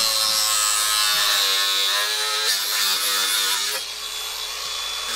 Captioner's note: none